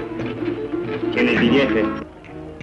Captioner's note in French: langue étrangère